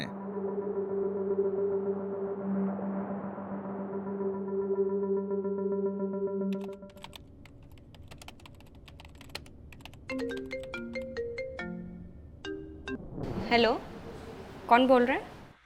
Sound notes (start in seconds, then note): 10.1 phone rings